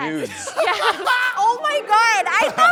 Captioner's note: guy laughing